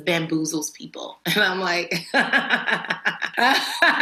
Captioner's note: laughs; laughs again